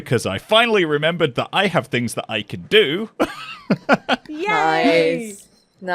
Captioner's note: laughs